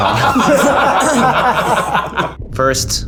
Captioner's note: all laughing